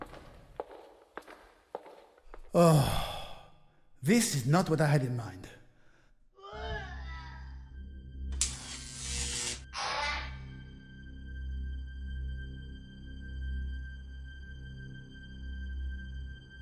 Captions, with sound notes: Uggh, this is not what I had in mind. (Distant stangled scream) (Electrical noise)